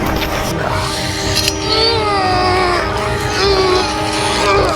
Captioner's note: groaning